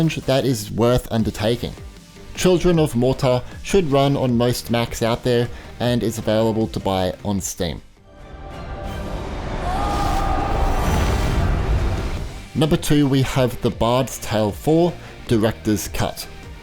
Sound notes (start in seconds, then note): 7.9 dramatic music; 9.1 lightning crackles; 9.6 screams